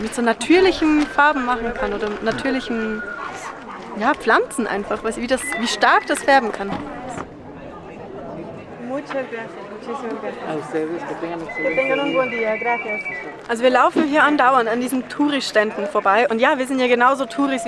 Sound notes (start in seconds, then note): 8.5 in Spanish